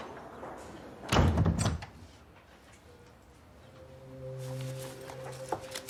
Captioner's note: the door slams